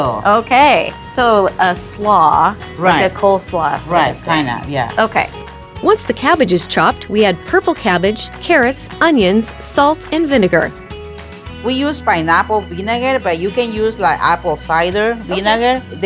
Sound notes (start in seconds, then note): none